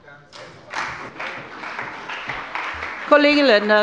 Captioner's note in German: Beifall bei dem BÜNDNIS 90/DIE GRÜNEN und der CDU